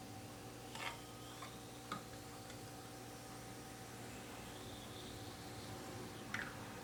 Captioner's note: fizz